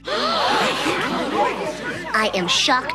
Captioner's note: gasping